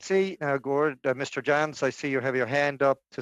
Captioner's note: speaking in French